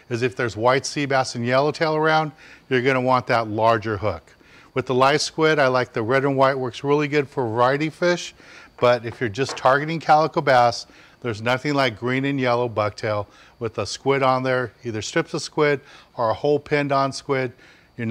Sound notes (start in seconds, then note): none